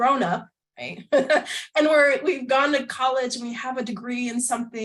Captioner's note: laughter